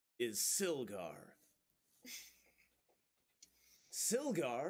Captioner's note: snorts a laugh